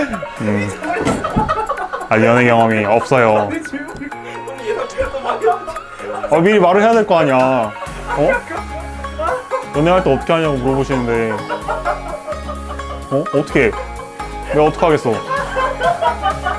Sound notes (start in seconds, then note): 4.3 his friends laugh to death